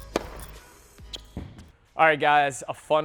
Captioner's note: ball whacks